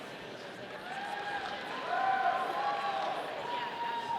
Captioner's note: audience applauding